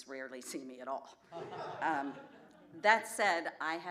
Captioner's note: laughter